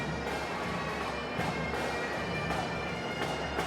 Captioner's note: none